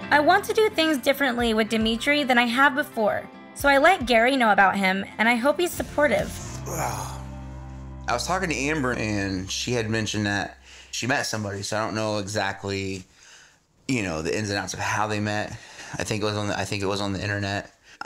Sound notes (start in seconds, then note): 6.5 sighs